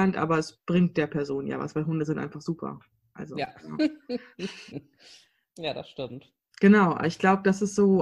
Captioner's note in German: lacht